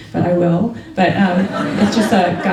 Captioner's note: laughter